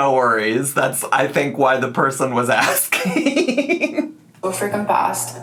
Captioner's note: laughs